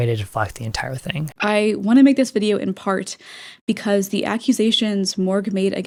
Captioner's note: inhale